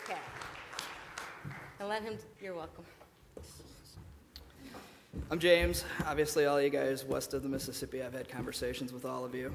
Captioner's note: applause